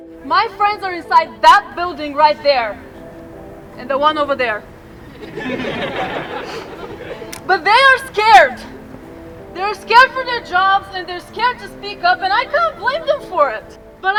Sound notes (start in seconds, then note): 3.9 crowd laughing